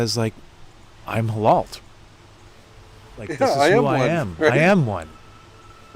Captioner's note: laughs